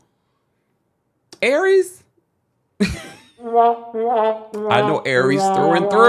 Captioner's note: trumpet blares; laughs